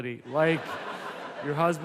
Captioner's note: audience laughs